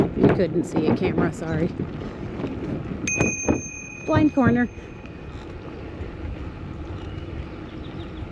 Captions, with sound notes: you couldn't see it, camera, sorry [see-me bell™ rings] blind corner